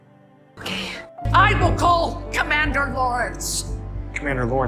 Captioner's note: shouting